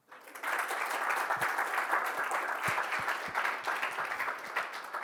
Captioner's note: audience applauds